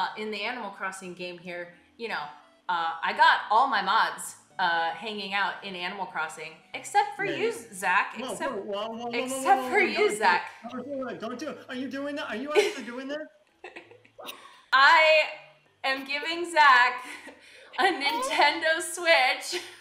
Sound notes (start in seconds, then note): 12.2 amused laughter